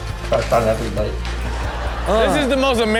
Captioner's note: audience laughs